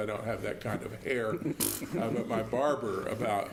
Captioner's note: laugh